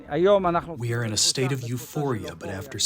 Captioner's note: through translator